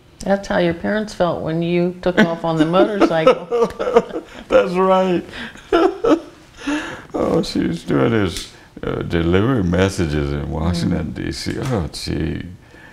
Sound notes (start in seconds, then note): 3.7 laughter; 5.9 laughter